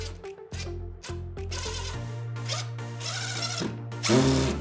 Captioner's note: drill whirring